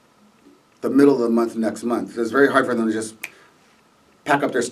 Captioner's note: snaps his finger